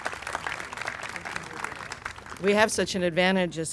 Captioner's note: applause